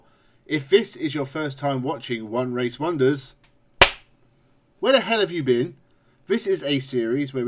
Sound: clap

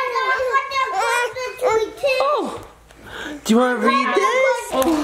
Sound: kids shouting

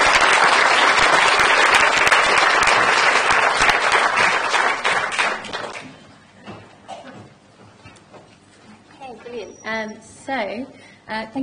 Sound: applause

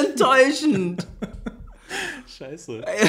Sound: laughs

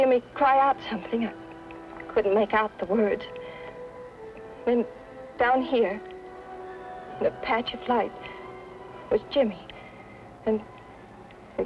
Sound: siren wailing

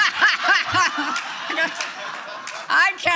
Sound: laughter

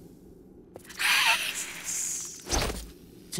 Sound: hissing

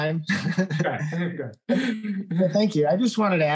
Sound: laughs

